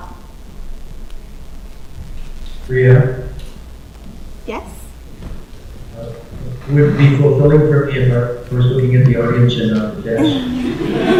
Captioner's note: laughter